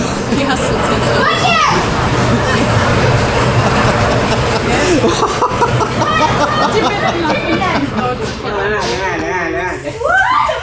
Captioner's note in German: gelächter